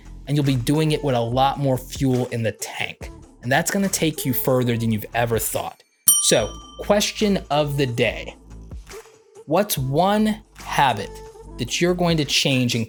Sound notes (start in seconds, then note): 6.0 bell dinging